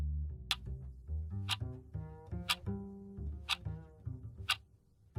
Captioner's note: clock ticking